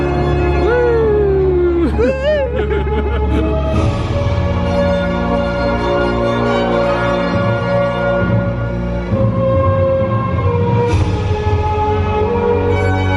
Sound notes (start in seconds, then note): 3.4 pair laughs; 5.2 gentle inspirational music